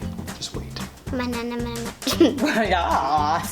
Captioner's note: laughing